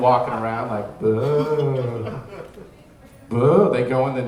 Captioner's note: booing